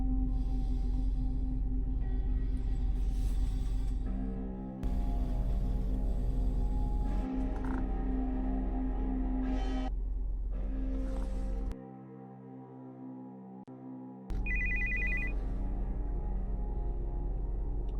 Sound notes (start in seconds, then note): 14.4 phone rings; 15.8 dark music